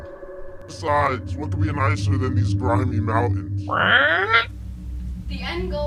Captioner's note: squak